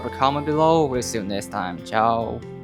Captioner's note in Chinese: 西班牙语